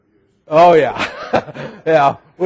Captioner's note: laughing